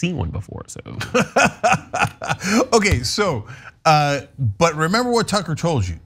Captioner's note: laugh